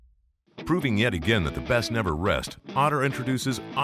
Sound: voiceover

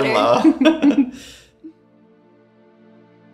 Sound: laughs; gentle music

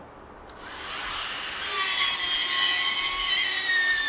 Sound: saw buzzing

